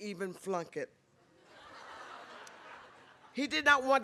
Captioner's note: laughter